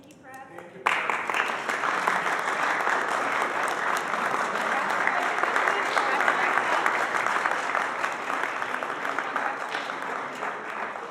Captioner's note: applause